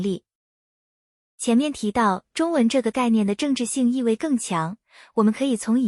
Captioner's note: 中文